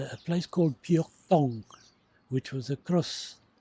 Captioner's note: foreign language